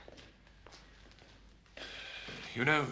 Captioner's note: menghela napas